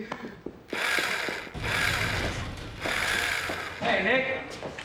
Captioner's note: laughs; drill whirring